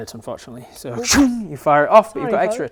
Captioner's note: shoom